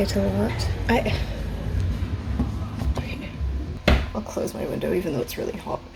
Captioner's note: more car noises